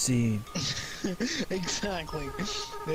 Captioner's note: laughing